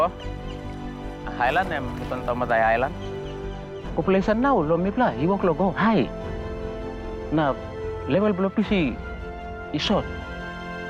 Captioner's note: natural sounds continue